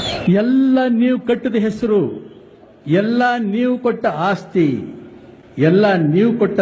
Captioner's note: Rajkumar Speech playing